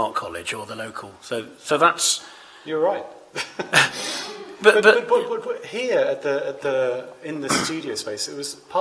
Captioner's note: chuckles